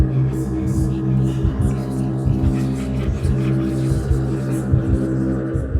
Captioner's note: disembodied whispering